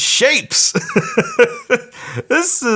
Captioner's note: laughs loudly